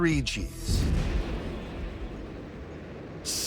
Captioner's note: rocket engines roar